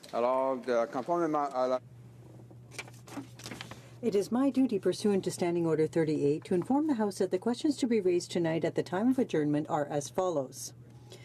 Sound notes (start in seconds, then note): 6.2 speaking French